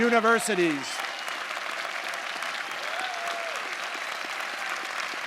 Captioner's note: audience applauding